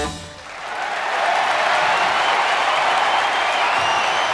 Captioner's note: crowd cheering and clapping